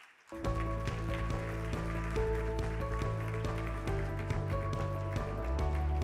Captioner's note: audience applauding; upbeat music